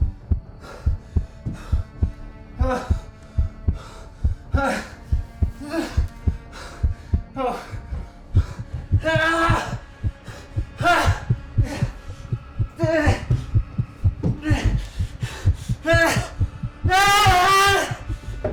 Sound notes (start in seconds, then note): 2.6 Terry moaning; 7.7 heart pounding continues; 9.0 Terry screaming and moaning